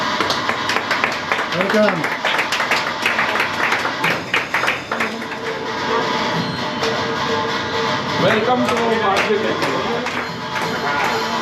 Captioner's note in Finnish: Aplodeja